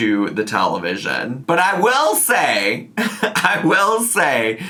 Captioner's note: laughs